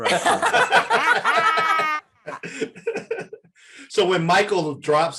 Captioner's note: panelists laughing